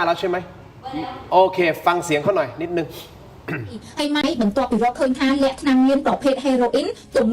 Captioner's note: sound of coughing